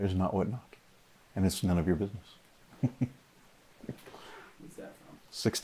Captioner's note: chuckles